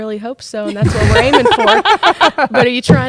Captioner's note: laughter